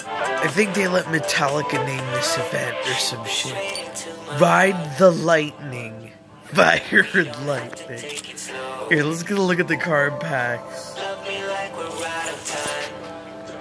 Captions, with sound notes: I think they let Metallica name this event or some sh*t RIDE THE LIGHTNING (Laughing) Fire and Lightning here lets get a look at the card packs